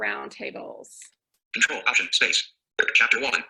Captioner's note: synthesized speech